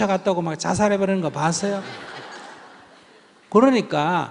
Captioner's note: audience Laughter